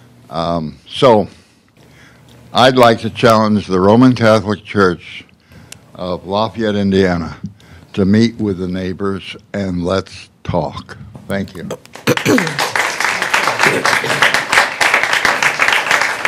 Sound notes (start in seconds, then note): 11.9 applause